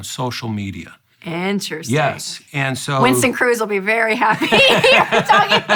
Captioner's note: laughs